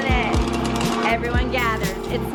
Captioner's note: maize popping